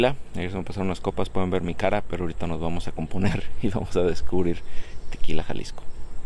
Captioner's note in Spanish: risas